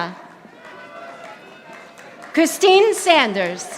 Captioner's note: audience applauding